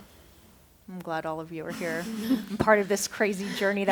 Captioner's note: laughter